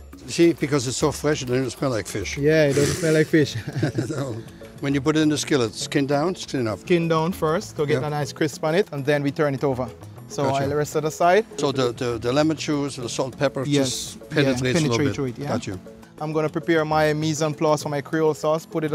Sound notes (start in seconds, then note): 2.6 both laugh